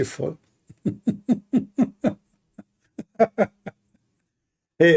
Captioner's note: Ketawa